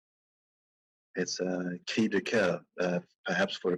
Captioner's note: speaking in a foreign language